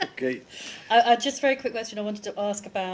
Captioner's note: laughter